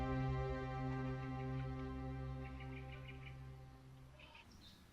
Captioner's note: birds chirping